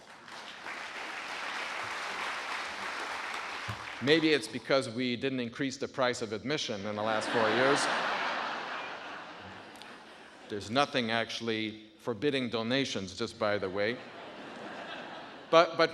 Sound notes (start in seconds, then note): 0.0 audience applauding; 7.0 audience laughing; 13.8 audience laughing